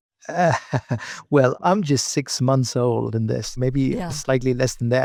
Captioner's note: laughs